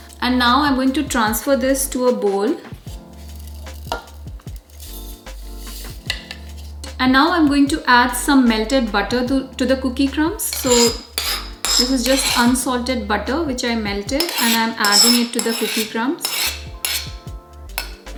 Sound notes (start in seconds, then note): 4.4 kitchen sound